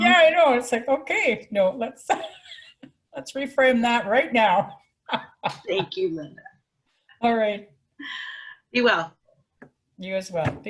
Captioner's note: laughing